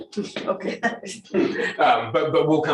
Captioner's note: chuckles